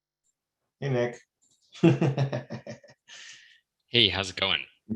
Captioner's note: laughing